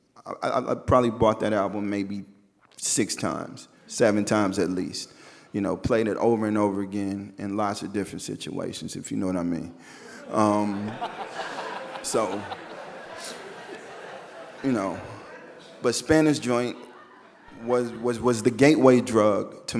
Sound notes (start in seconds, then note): 10.5 audience laughing